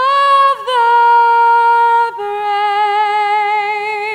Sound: none

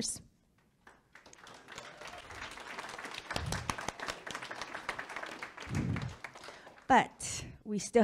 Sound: public clapping

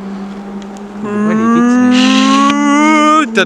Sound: cow noise

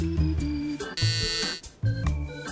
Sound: buzzer

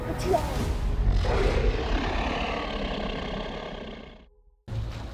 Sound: dinosaur roaring

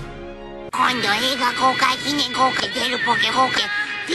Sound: speaking japanese with "kouk-" repeated and inserted

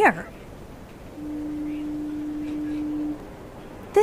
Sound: ship horn blows

